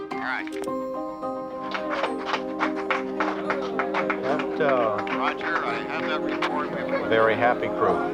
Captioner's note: applause